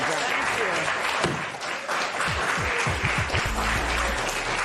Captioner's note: applause